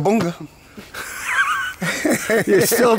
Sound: laughing

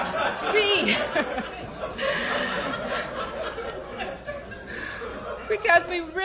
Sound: laughter

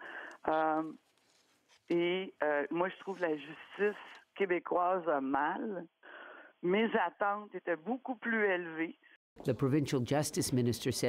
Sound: speaking French

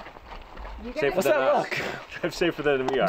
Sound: chattering

